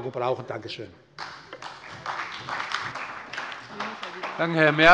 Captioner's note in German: Beifall bei der SPD